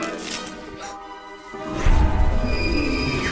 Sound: gasps

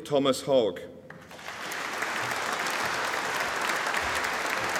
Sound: audience applauding

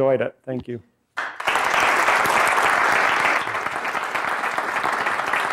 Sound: applause

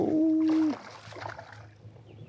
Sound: water splashing

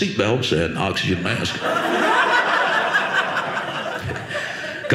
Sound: audience laughing

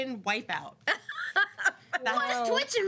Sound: girls laughing

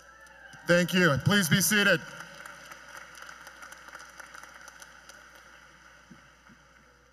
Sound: cheers and Applause

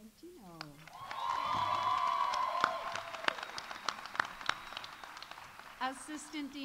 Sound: audience applauding; audience cheering

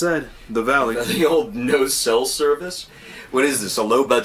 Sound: laughing

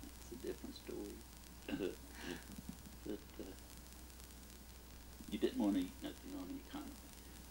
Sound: chuckles

